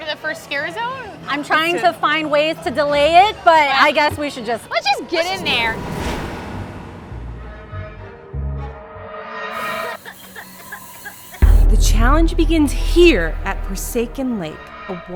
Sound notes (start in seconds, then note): 5.4 ominous music; 9.7 coughing